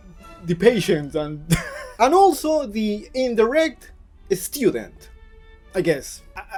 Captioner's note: laughs